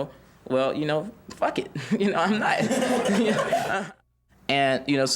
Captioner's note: students chuckling